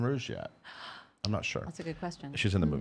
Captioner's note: gasping